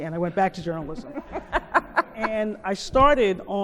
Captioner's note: laughing